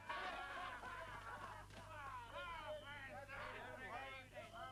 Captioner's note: crowd reveling